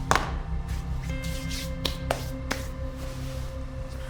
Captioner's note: hands clap